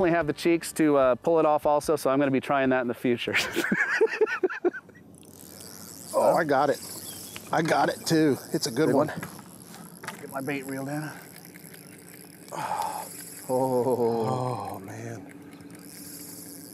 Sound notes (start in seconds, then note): 3.4 laughs; 4.9 reel cranking